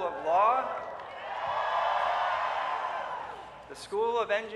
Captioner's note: cheering